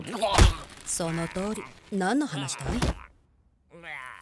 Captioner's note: gagging